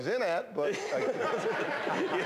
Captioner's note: laughter